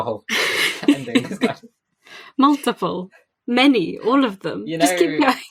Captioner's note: laughing